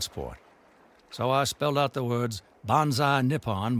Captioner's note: speaking foreign language